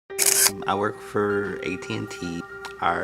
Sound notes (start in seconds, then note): 0.1 camera shutter clicks; 0.2 gentle piano music